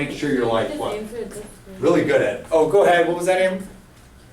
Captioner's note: voiceover